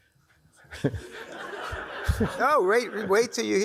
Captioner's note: crowd laughs